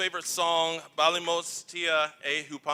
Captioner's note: non-english speech